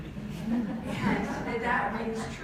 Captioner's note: audience laughs